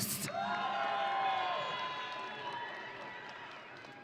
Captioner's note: audience cheering